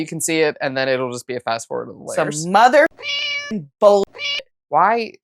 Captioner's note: meow